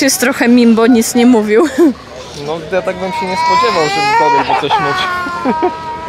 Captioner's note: laughter